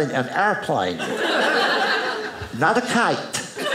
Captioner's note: audience laughing